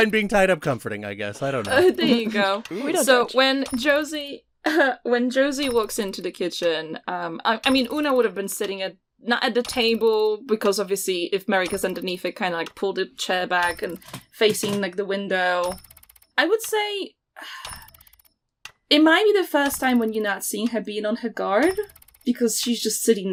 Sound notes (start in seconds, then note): 3.0 apartment ambience begins: slow ticking of a clock, soft whirring